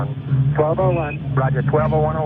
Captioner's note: voiceover